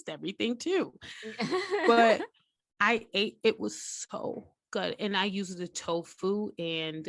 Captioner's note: giggle